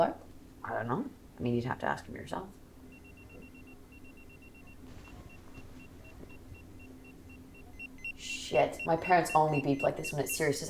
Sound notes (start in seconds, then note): 2.8 pager beeps